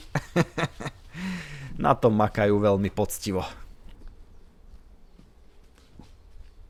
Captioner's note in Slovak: smiech